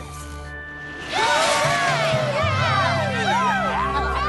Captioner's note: cheers